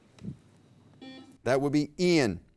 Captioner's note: buzzer beep